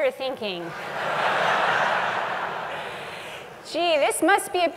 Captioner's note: laugh